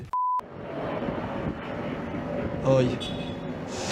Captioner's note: beeping